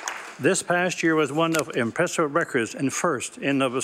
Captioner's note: applause